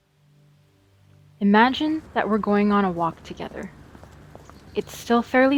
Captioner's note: silence; wind blowing